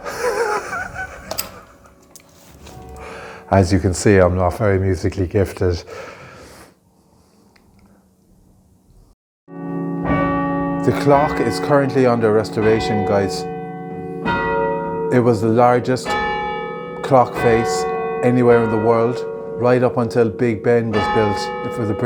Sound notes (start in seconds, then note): 0.0 laughs; 9.9 bells chime